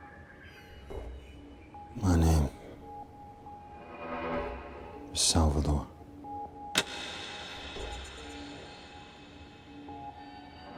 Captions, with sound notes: My name is salvadore. (Clicking)